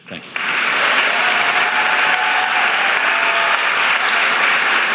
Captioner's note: audience applauding